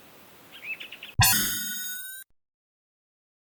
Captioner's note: Sonic 1 Warp Ring Sound